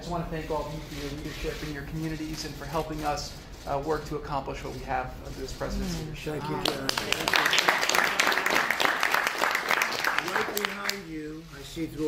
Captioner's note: applause